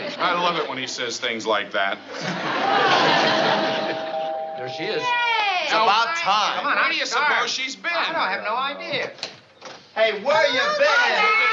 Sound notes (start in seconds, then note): 3.8 doorbell